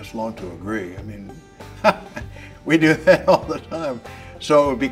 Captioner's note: laughs